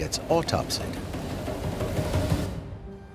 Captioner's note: sea water and drums